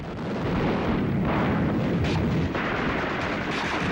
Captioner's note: guns firing